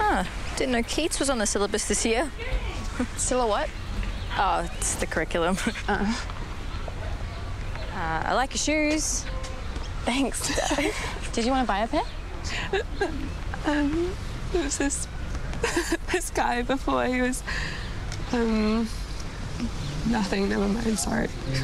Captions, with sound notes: - Oh, didn't know Keats was on the syllabus this year. - Sylla-what? - Oh, it's the curriculum. - Oh. - I like your shoes. - Thanks, did you wanna buy a pair? (laughter) - There was this guy before, he was, nothing, nevermind, sorry.